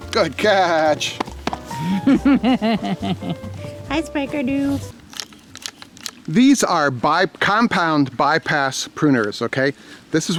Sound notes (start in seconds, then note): 1.8 camera operator laughs